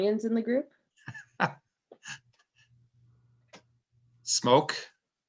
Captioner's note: chuckles